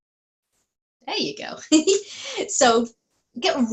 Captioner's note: giggles